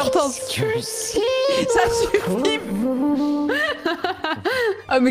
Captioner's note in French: rejoue "est-ce que c'est bon pour vous ?" à l'autotune